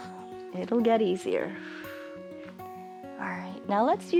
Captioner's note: exhales